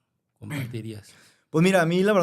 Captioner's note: clears throat